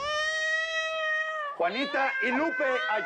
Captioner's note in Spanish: Llanto del bebé